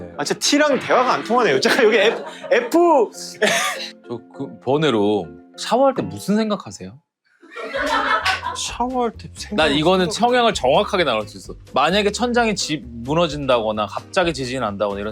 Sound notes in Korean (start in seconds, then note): 7.4 웃음